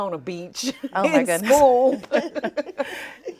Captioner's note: laughing